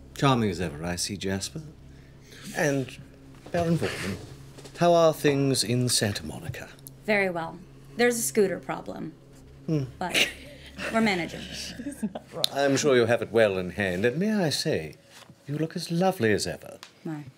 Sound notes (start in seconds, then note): 10.0 chuckling